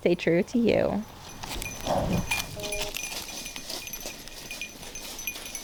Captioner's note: sheep breathing into mic, leaves crunching